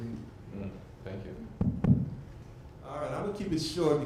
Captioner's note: taps on mic